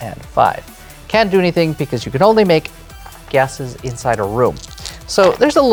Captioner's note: dice rattle